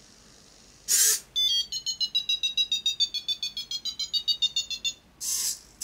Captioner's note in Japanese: 電子音